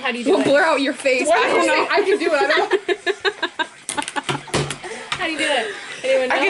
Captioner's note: all laughing